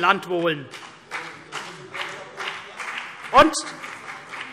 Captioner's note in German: Vereinzelter Beifall CDU